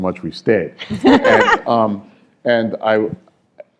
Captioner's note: laughter